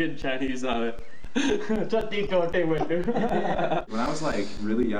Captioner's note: chinese accent